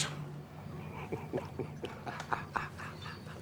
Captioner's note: laughs